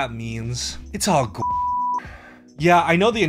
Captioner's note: beep